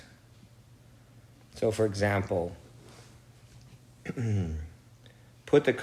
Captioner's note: clears throat